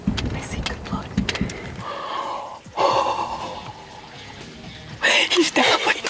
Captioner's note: energetic rock music; sighs